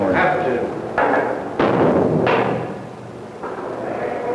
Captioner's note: cell door bangs shut